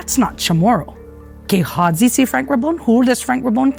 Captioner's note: in native chamoru